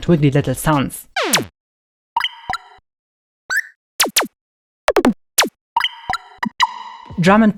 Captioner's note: laser zaps and similar noises